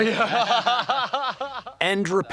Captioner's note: laughs